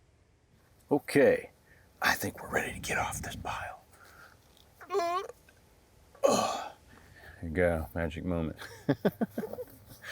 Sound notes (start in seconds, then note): 4.2 grunts; 8.6 chuckles; 9.8 molder rustling